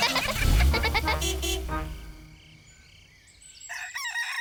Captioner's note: giggling; horn toots